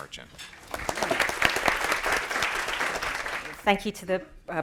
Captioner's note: applause